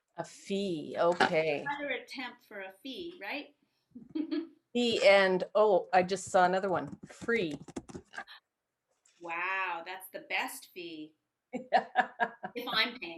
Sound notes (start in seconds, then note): 4.2 laughs; 11.6 laughs